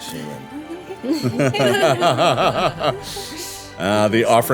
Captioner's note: everyone laughing